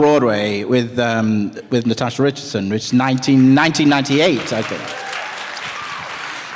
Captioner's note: applause